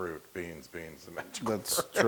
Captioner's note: laugh